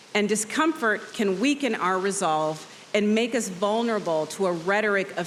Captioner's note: none